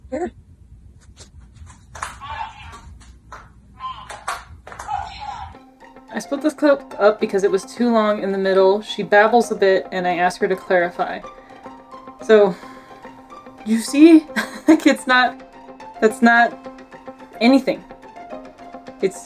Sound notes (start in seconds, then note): 5.6 background music; 11.4 background music; 13.7 chuckles; 15.6 background music